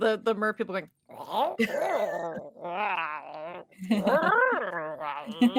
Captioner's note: merperson chatters